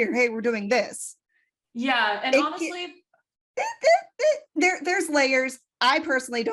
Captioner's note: squeaky voice